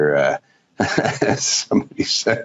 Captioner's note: chuckles